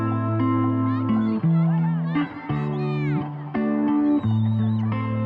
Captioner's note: kids yelling